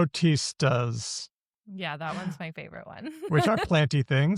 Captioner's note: laughs